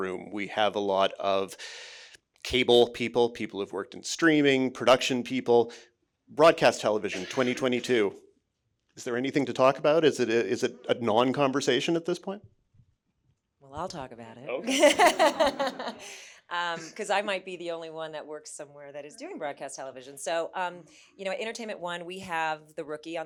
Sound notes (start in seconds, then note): 14.6 chuckling